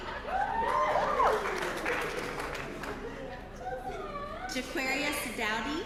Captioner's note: applause